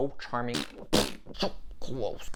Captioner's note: frustrated farts